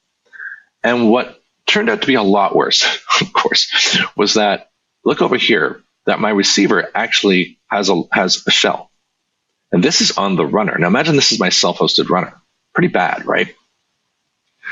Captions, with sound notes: And what turned out to be a lot worse, [chuckles] of course, - was that, look over here, that my receiver actually has a shell. And this is on the runner. Now, imagine this is my self-hosted runner. Pretty bad, right?